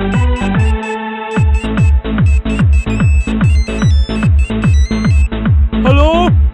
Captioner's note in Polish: telefon dzwoni